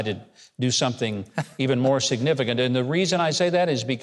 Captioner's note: Mike chuckles